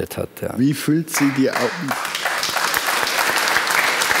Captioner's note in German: Applaus